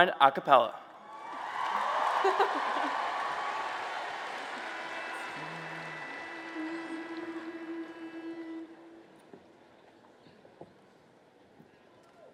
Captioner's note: applause and Cheers